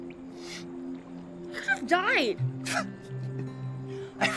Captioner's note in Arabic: ضحكات خافتة